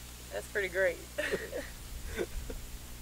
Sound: man laughing; laughs

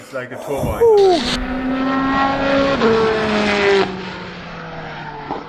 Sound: car engine revs

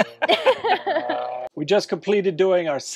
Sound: laugh

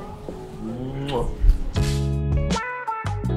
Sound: kissing noise; funky music

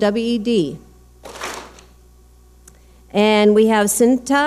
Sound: clap smack

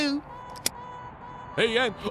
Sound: buckle clicks

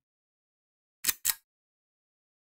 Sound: click

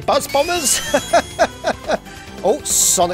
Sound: chuckles

